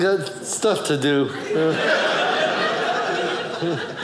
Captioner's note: audience laughing